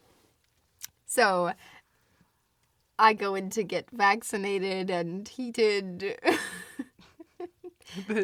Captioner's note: laughs